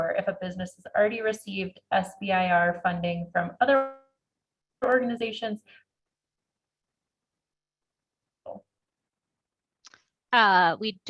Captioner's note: break in audio